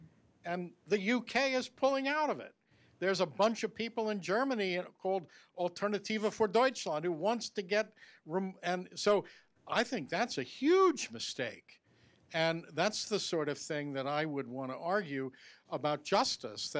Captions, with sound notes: and the UK is pulling out of it. There's a bunch of people in Germany called, (speaking foreign language) who wants to get, and so, I think that's a huge mistake and that's the sort of thing that I would want to argue about justice,